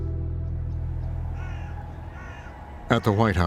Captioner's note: bird cawing